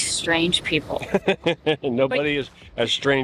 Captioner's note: laughing